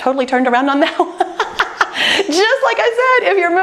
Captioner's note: laughing